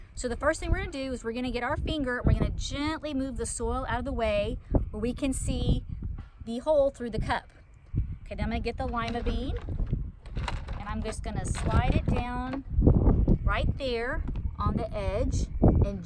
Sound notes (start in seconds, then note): 10.2 beans sounding